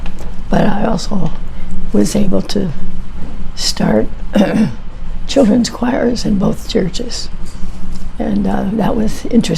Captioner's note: clears throat